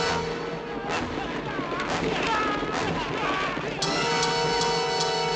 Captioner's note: hooves clattering